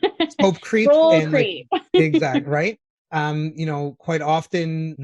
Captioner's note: laughs